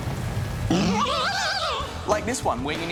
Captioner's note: screeches